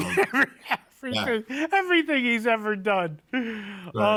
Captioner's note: laughing